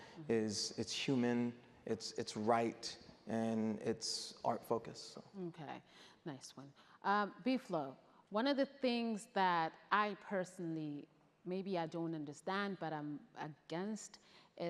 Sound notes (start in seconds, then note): none